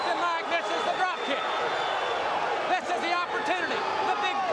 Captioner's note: crowd cheering